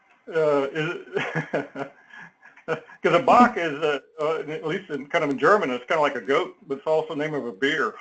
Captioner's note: laugh